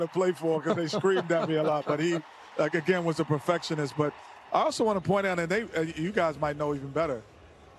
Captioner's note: laughter